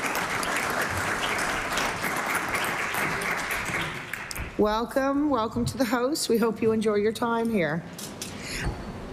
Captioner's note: applause